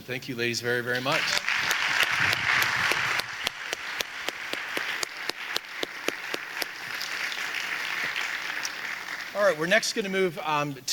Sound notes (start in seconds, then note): 1.0 audience applauding; 1.0 applauding